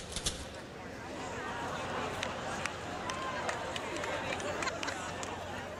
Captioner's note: laughter